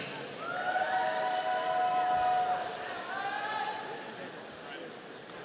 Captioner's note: audience cheering